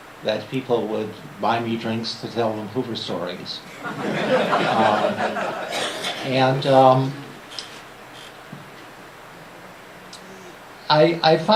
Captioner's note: laughter